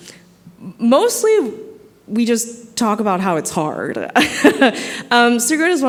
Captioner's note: laughs